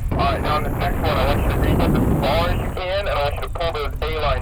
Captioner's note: roaring wind drowns out the radio